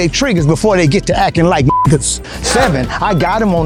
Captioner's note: beep